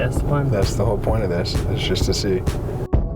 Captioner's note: voiceover